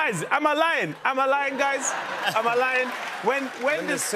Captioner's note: laughter